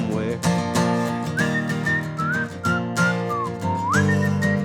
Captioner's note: whistling